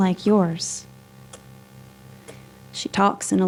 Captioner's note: continous ticking